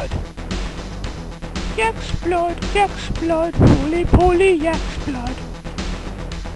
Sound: singsong

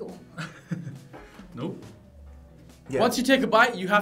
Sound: laughs

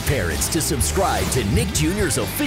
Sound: squawking

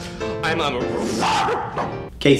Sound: barks

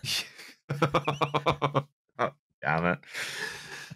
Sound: laughs

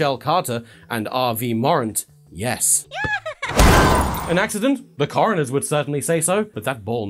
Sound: laughter + impact

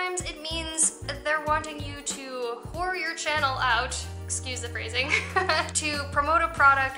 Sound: laughter

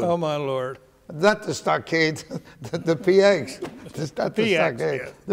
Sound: laughs

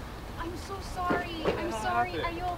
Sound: car doors close

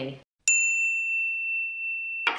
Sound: bell dinging

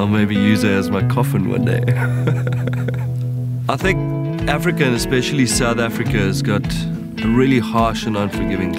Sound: chuckle

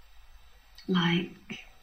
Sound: distorted sound creeps in briefly

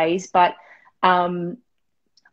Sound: none

